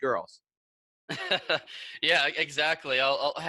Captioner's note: laughs